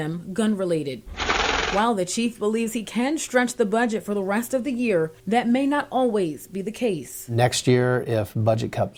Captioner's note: nats gun shots